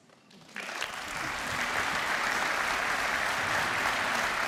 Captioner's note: applause